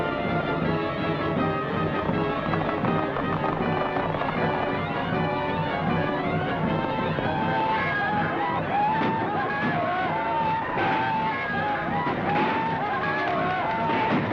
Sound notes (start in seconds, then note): 7.3 yelling